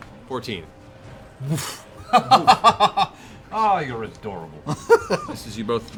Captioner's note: laughter